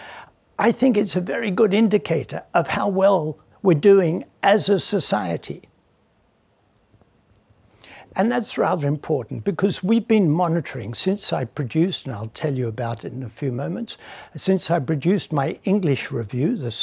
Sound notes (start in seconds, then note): none